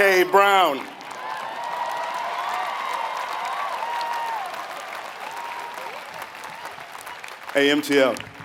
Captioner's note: applause